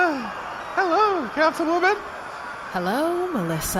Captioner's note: makes a nervous sound